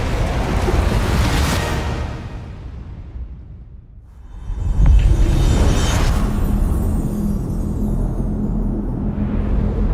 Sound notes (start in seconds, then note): 4.8 dramatic sound